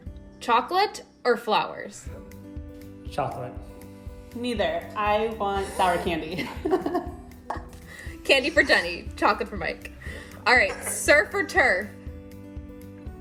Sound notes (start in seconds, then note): 5.8 laughter